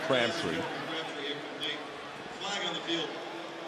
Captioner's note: pa announcement